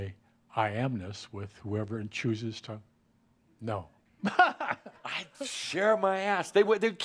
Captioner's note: he chuckles